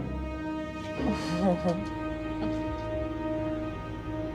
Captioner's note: chuckles